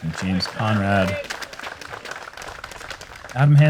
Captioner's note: applause